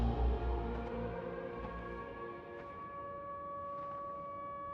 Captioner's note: siren blares; mysterious music plays